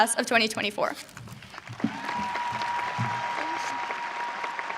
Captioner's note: audience cheering